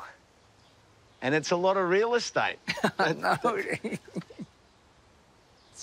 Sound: laughs

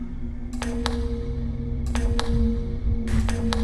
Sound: warped TV channel flipping

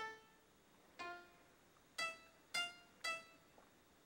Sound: none

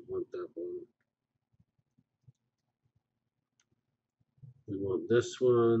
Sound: pause

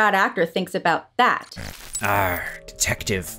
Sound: static

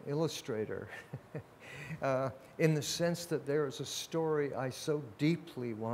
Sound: laughs

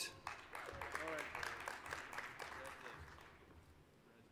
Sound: applause

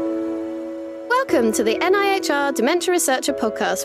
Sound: ambient music; voiceover

